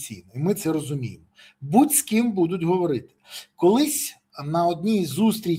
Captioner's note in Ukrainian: сопіння